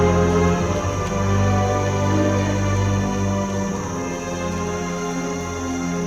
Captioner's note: bugs and crickets chirping